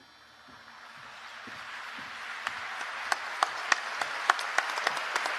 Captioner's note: applause